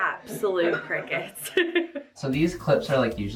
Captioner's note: laughs